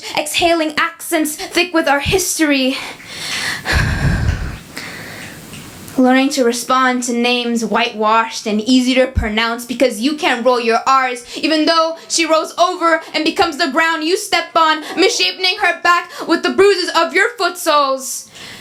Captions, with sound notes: exhaling accents thick with our history. [exhales] Learning to respond to names white-washed and "easy to pronounce" because you can't roll your Rs, even though she rolls over and becomes the ground you step on, misshaping her back with the bruises of your foot-soles.